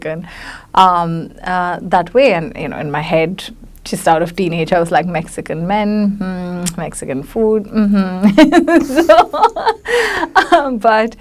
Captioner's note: laughs